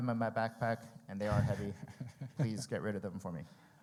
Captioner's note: laughs